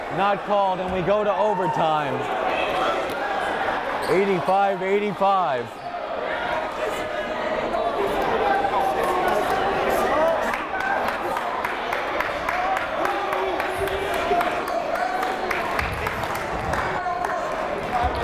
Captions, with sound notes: not called and we go to overtime. 85-85. (crowd murmuring)